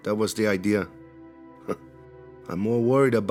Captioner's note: scoffs